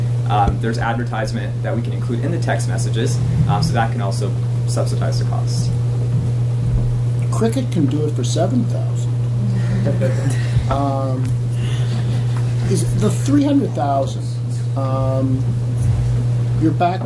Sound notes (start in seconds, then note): 9.6 laughter